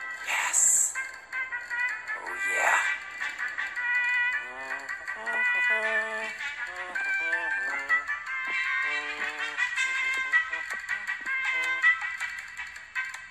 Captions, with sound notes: yesss oooh Yeah (humming)